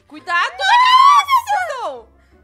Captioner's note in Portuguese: gritos